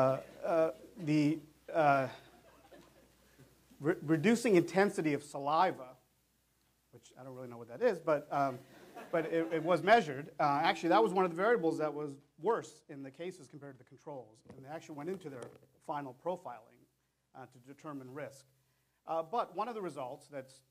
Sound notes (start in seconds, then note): 8.6 laughter